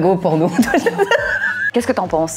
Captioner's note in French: Rire